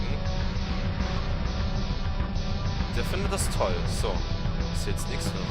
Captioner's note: none